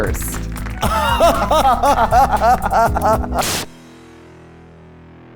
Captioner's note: applause; laughter